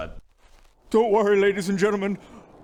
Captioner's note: shivering